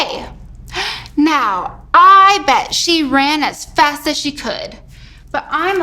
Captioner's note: gasps